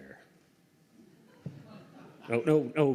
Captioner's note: laughter